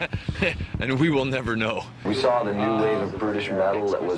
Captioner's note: all laughing